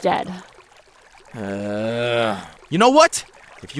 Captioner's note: sigh